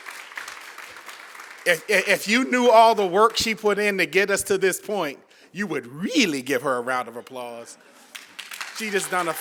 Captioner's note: applause